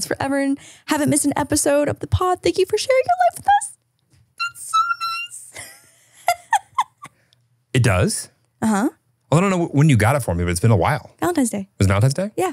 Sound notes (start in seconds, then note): 5.5 laughs